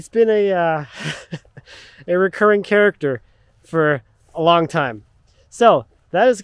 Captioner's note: laughing